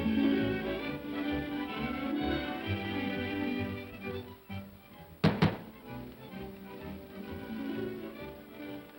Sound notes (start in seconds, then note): 5.2 knocking on door; 7.1 upbeat music